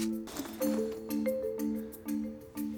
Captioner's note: sighing